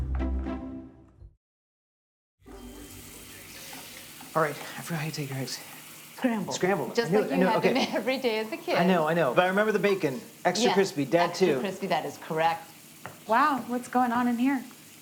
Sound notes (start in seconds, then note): 3.0 pan sizzling